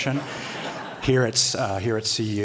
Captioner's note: laughter